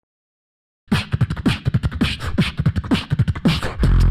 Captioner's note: beatboxes